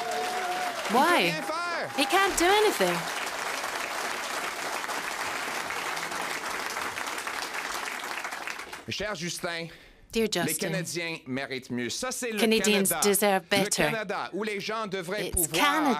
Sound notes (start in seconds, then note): 6.8 applause; 7.7 cheering